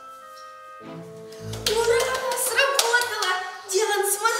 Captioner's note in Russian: Хлопки в ладоши